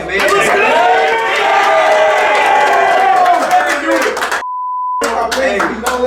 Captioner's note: cheering and yelling